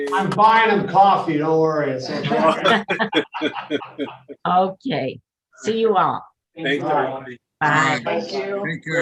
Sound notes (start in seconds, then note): 1.9 members laughing